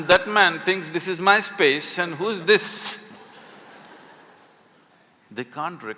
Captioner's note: laughter